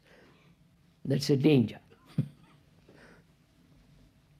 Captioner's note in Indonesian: Tertawa